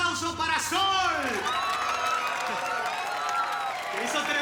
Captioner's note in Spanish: Aplausos